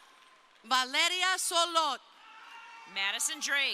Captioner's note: crowd cheering; crowd cheering